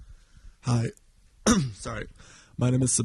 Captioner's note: coughs